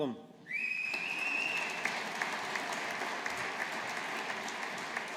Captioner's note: audience applauding